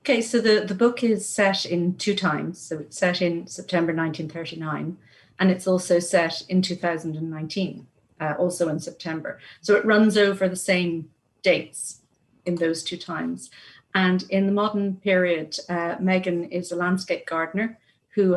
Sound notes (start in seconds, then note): none